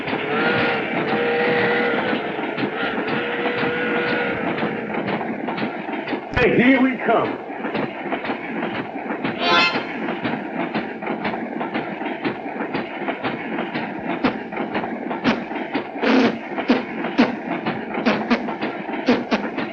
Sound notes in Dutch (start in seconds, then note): 0.2 trein fluit; 9.4 harmonicamuziek; 14.4 muziekinstrument nabootsend